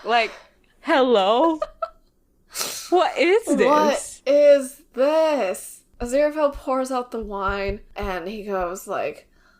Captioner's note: laughs